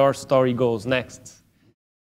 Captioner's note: pause